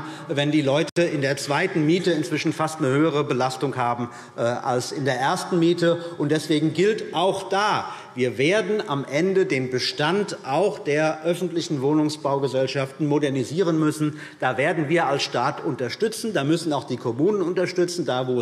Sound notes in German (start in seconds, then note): none